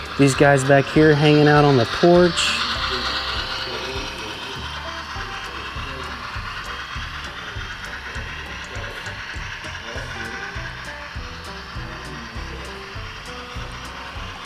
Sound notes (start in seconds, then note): 2.7 train whirs; 2.7 upbeat music continues